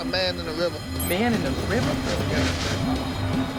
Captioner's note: indistinct chatter; dramatic music continues